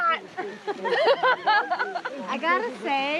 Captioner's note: laughing